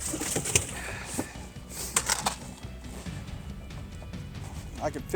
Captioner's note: equipment rattling